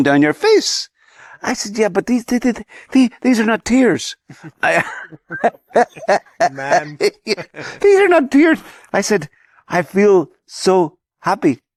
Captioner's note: laughs